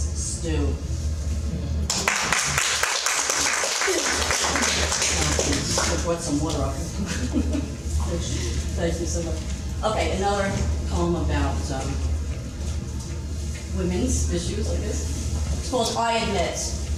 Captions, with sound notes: (audience clapping) Should of brought some water up here (laughing). Thank you so much. Okay, another poem about women's issues I guess. It's called I Admit.